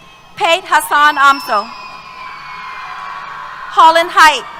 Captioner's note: cheers